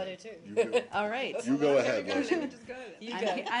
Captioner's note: laughter